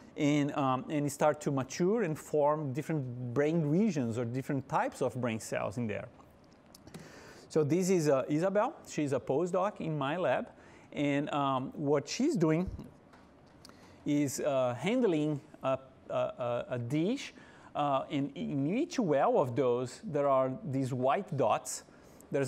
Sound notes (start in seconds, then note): none